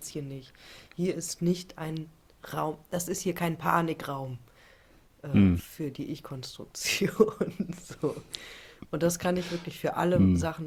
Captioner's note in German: gelächter